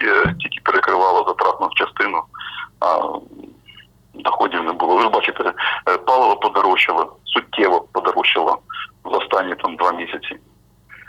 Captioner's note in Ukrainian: коментар телефоном